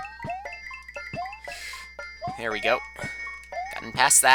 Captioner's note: breathing